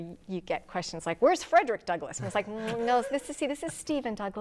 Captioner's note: laughing